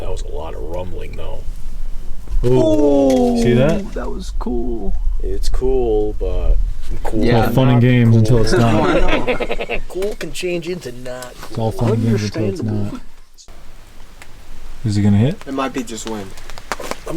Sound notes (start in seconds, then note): 8.3 group laughing